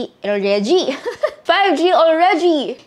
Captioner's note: laughs